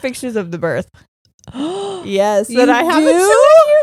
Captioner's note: gasping